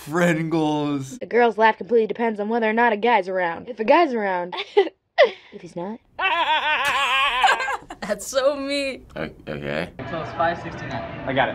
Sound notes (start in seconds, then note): 4.5 cute giggle; 6.2 laughs; 6.2 boisterous laugh